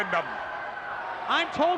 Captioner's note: audience cheers